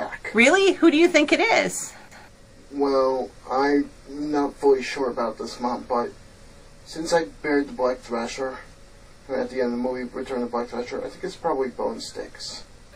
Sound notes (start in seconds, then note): none